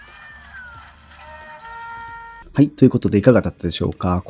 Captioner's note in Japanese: 叫び声